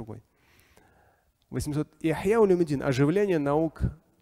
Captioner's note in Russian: Говорит на арабском